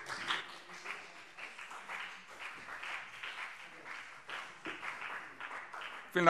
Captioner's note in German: Vereinzelter Beifall CDU und BÜNDNIS 90/DIE GRÜNEN